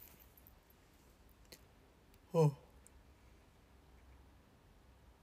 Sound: yAwN

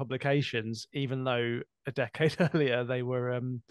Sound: laughter

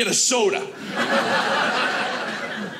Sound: audience laughing

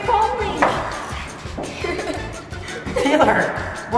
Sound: laughter

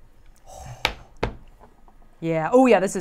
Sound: knife thudding

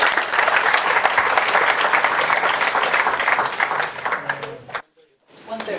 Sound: applause

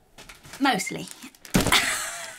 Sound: laughs

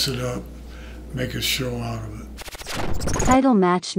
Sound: static buzzes

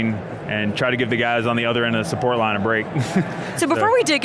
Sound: laughs

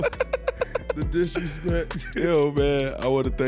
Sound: laughing; chuckles

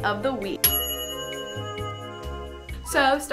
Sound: bell dinging

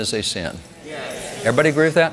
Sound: crowd

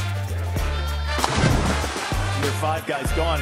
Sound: water splashing

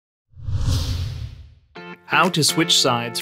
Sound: air whooshing

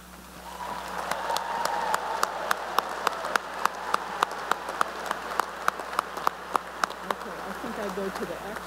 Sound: cheering and applause

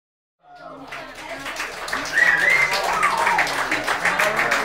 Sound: audience applauds

